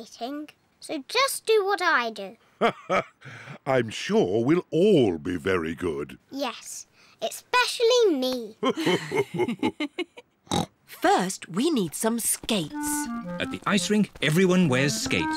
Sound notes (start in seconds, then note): 2.6 laughs; 8.6 laughs; 8.6 laughs and snorts